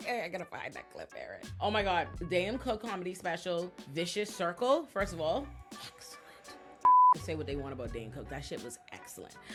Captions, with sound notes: I gotta find that clip, Eric. Oh my God. Dane Cook comedy special, "Vicious Circle." First of all, excellent. (beep) Say what they want about Dane Cook. That shit was excellent.